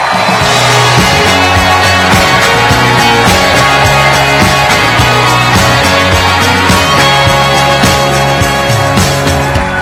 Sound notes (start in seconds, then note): 0.0 applause